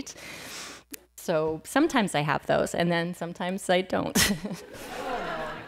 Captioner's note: laughs